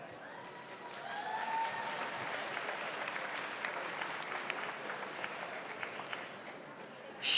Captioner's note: audience applauds; audience cheers